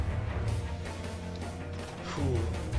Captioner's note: radio